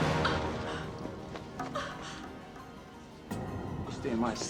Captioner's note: woman whimpers